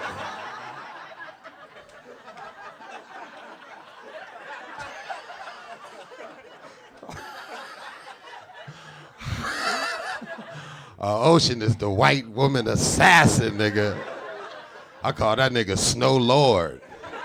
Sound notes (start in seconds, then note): 0.1 audience laughing; 9.2 laughing